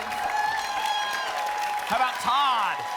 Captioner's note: applause and cheering